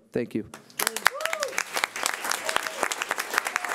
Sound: clapping

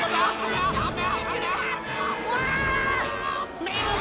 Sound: screaming

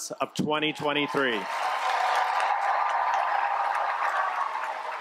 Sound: cheers, applause

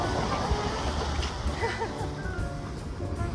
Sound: laughs

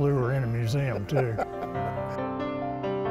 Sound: laughing; soft music

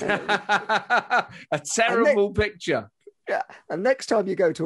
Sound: laughs

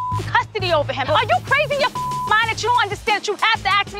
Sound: beep; beep

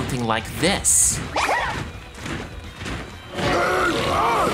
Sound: heavy footsteps; Goomba sound effect

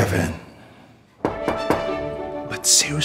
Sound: knocks on door

